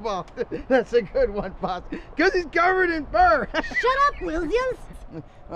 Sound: laughter; laughter

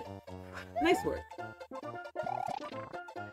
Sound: stress-filled laugh

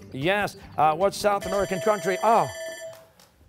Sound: bell rings

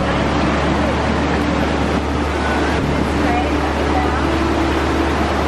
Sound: water overpowers voices

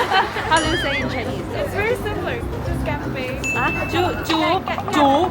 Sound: cheers

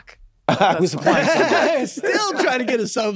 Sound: chuckles

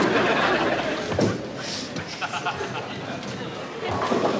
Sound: audience laughing

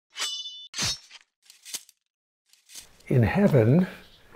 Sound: sword clanging

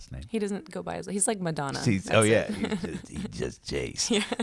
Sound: laughs

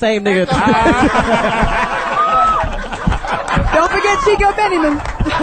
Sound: all laugh and clap

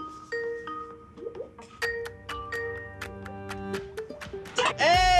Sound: video chat notification beeps

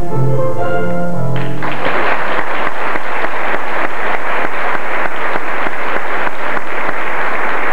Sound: applause

